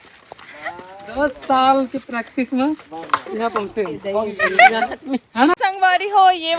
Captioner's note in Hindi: हंसी